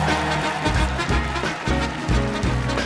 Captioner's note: applause